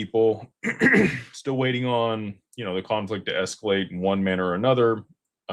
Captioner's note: clears throat